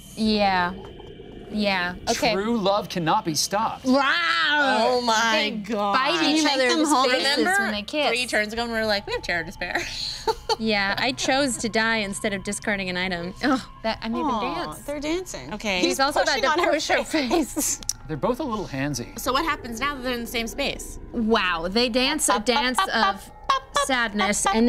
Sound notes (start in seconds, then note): 4.1 roaring; 10.1 group laughing